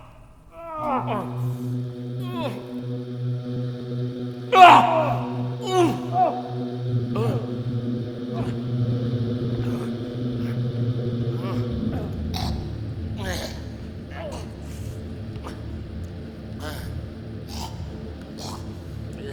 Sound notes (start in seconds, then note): 0.0 Dracula groans in pain and shock; 0.4 groans and sounds of struggle; 5.6 Quincy Morris groans in pain